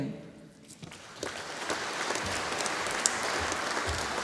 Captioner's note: audience applauding